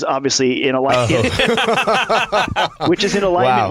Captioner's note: laughter